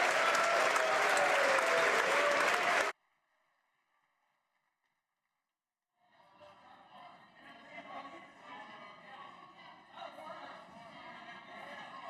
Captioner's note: applause